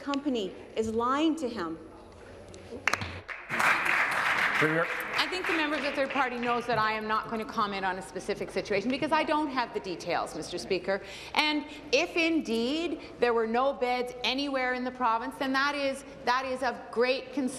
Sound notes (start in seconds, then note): 5.5 applause